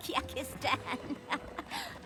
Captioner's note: chuckling